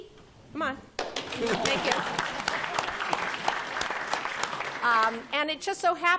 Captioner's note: applause